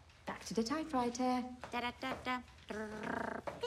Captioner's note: hums